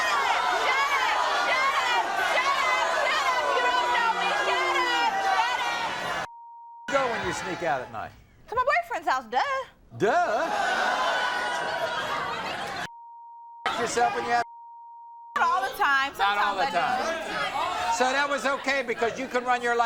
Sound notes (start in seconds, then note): 6.3 beep; 10.2 audience shouts; 12.9 beep